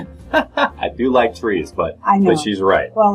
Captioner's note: laughs